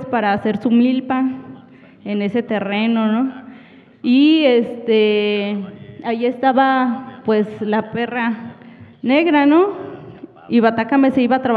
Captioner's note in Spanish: habla en wixárika